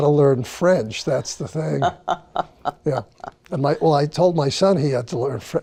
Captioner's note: laughing